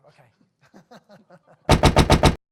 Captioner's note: laughter